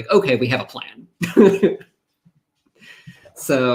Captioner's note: chuckles